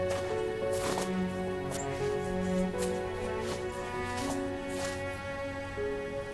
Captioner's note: shoes crunch; melodic music